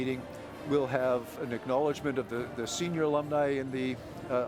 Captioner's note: none